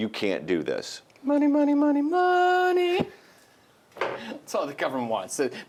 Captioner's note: voiceover